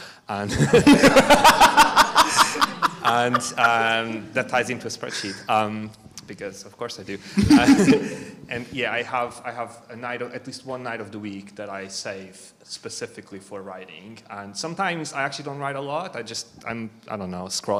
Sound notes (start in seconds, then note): 0.4 all laugh; 7.3 chuckles